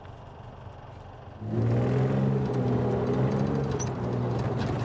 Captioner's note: engine rumbling